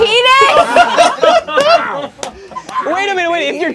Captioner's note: group laughs